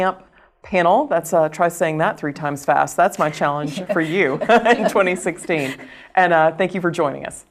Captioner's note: laugh